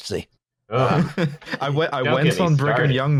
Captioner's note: laughs